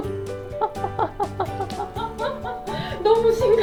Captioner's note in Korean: 웃음